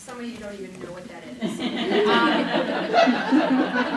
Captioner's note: laughing